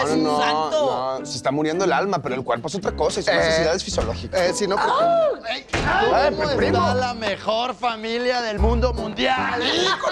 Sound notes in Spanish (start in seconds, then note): 5.6 puerta se abre